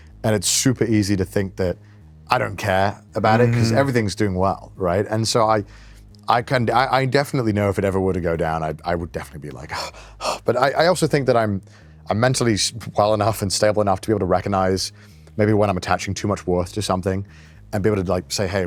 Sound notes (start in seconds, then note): 9.7 gasps